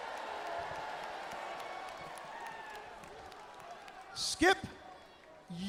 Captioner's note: crowd cheering